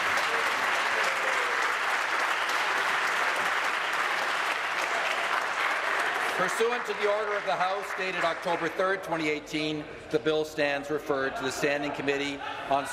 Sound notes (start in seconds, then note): 2.4 applause